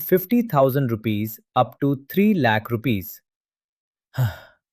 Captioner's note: sighs